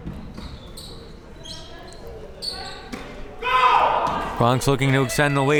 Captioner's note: crowd members shouting